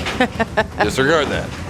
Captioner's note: laughs